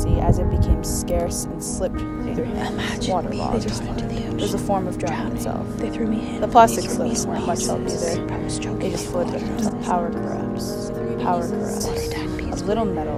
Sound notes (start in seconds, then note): 2.8 whispering overlaps; 3.4 whispered; 11.7 whispering overlaps